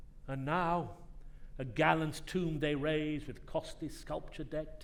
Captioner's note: none